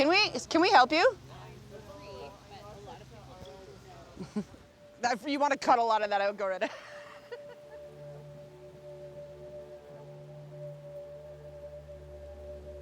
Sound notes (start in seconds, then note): 4.1 chuckles; 6.6 laughs; 8.0 melancholy music